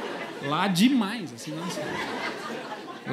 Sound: laughter

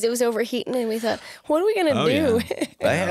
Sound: laughs

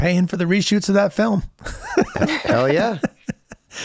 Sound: laughs

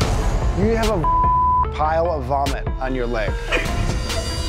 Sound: beep; intense music

